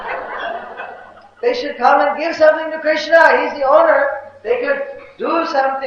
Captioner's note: Devotees laughing